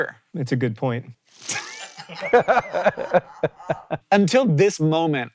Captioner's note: HANK and CREW laugh